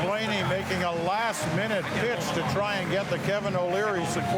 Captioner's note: cheering and Applause